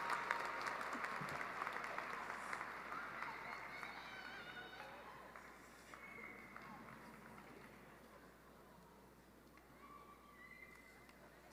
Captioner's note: applause